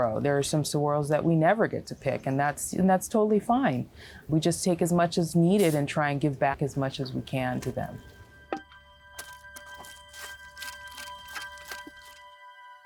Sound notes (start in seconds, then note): 9.2 scraping